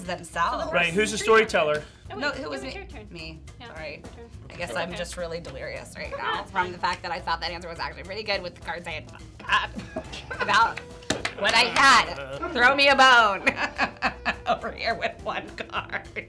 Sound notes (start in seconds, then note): 9.5 choking up; 14.4 laughing